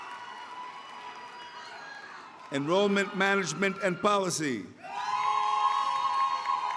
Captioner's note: cheering